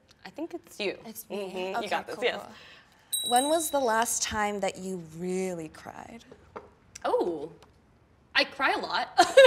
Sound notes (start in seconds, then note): 3.1 bells ringing